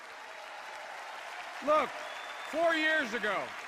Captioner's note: applause